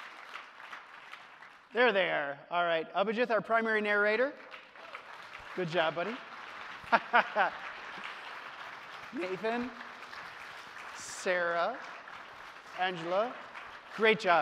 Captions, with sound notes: There they are, all right. Abhijith, our primary narrator. Good job buddy. (audience applauding) Nathan, Sarah, Angela, great job team. Great job.